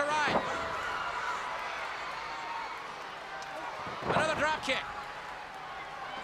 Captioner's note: crowd cheering